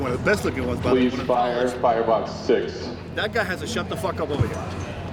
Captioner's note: announcer in background